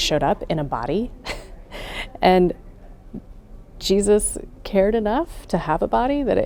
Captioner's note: laughs